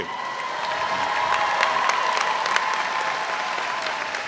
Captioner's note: all applaud